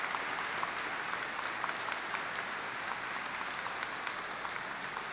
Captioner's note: applause